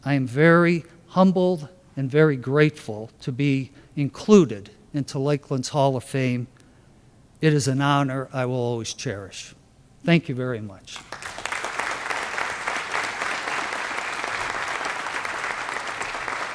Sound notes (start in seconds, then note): 10.9 applause